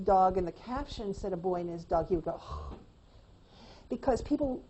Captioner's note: sighs